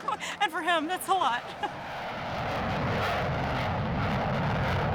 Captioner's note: plane roars overhead